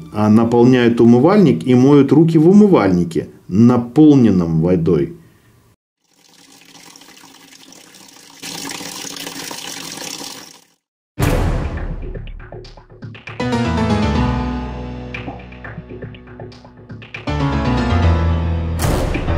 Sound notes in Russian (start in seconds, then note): 6.0 звук воды, льющейся из крана; 11.1 зловещая музыка